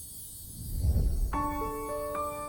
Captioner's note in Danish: magisk klokkelyd; whoosh; romantisk musik; magisk klokkelyd